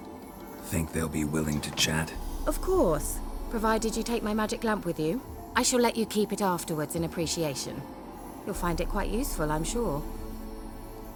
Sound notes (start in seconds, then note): none